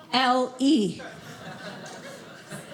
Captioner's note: audience laughing